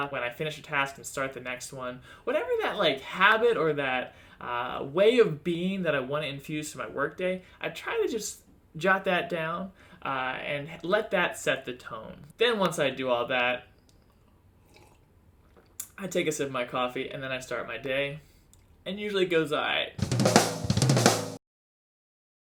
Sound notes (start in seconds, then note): 14.6 slurp; 20.0 snare drum hit